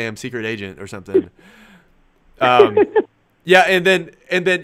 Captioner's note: laughs